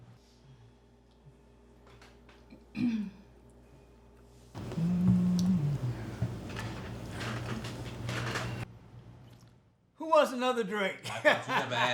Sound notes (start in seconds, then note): 2.6 Erica clears throat; 11.1 laughing